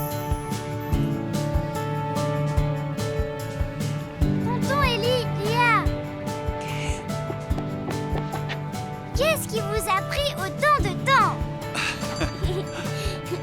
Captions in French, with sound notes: - Oncle Eli ! Mlle Lia ! Qu'est-ce qui vous a pris tant de temps ? (cloches qui sonnent)